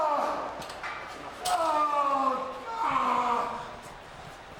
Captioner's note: none